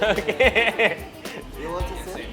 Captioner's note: laughing